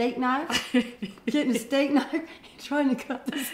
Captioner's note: laughs